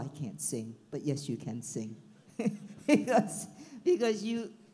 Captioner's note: laughs